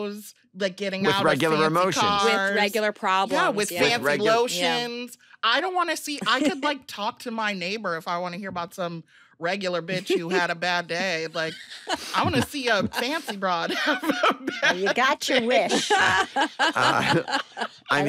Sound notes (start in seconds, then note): 13.9 laughs; 15.5 all laughing